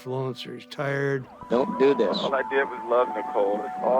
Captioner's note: on phone